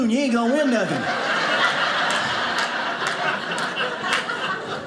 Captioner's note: audience laughing